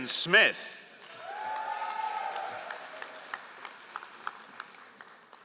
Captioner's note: all applauding